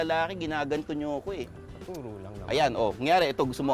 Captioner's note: whispering